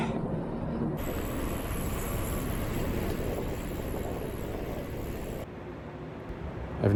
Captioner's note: wind blowing